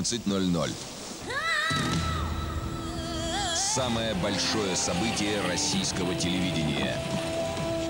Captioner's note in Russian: крик